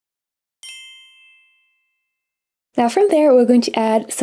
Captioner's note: bells chiming